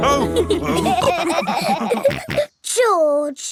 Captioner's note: all laughing